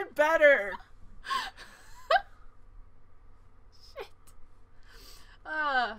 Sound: laughs

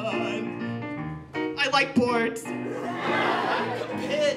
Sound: laughter

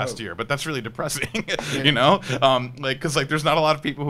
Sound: laughs

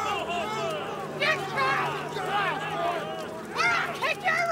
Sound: warriors shouting

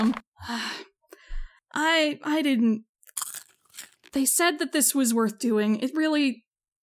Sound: sighs; popcorn crunches

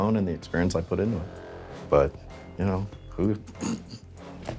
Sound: chuckles

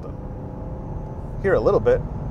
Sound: car engine roars

